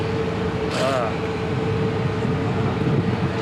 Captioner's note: groans